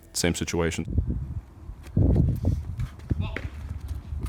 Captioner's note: wind blowing